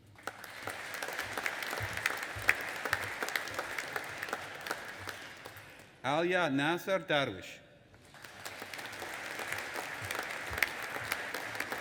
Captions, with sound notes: (AUDIENCE APPLAUDING) Alyaa Nasser Darwish. (AUDIENCE APPLAUDING)